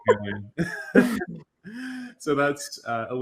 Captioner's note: laughter